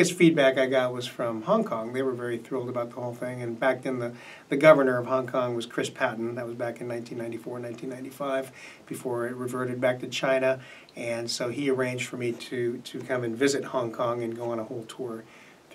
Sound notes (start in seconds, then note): none